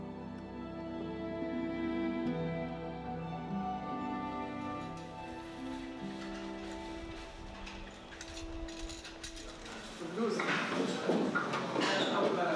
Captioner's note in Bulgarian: Неясно бърборене на заден план